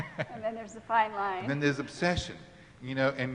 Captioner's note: laughing